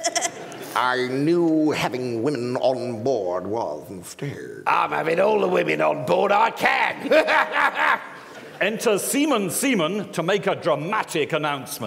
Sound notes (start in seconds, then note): 7.3 guffaws